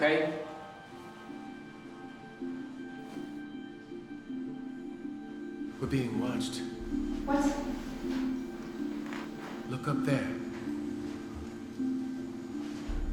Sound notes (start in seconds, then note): none